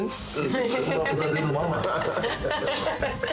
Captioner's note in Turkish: Gülüyorlar